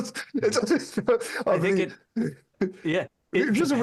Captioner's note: laughs